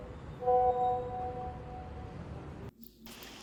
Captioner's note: message alert tone